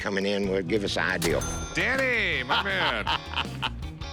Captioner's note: laughs